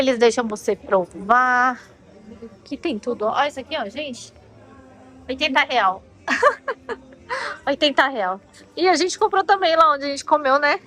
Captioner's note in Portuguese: risadas